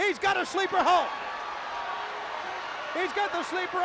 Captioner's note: crowd cheering